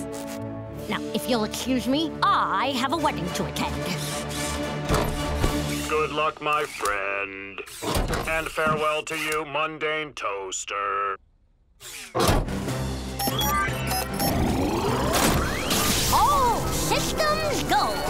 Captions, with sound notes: Now, if you'll excuse me, I have a wedding to attend. Good luck, my friend. And farewell to you, mundane toaster. [beeping] All systems go.